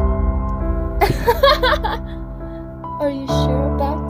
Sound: laughing

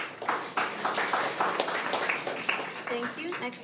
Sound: crowd clapping

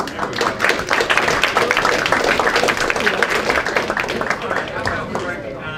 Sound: applause

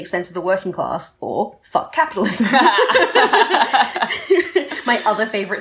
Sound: laughter

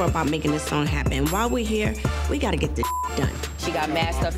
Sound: beep

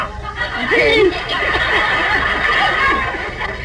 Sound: audience laughs

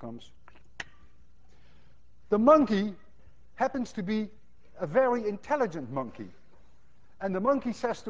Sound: kisses

